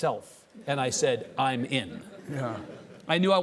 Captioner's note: audience chuckling